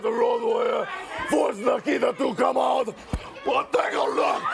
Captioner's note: crowd cheering